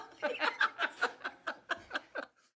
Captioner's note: both laughing